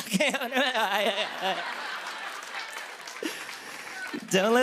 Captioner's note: laughter and applause